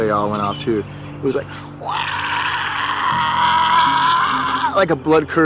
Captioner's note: mimic deep grunting